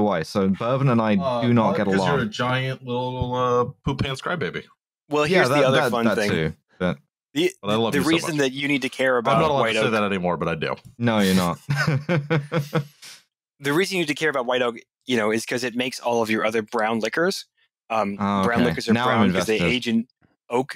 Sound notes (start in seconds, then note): 11.2 chuckles